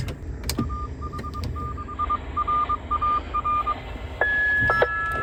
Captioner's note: repeater callsign in CW